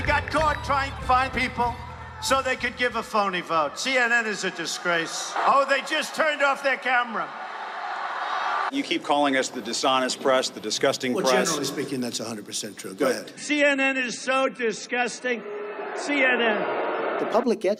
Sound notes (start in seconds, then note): 8.4 crowd cheering; 15.2 crowd booing